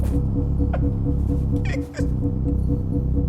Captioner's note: crying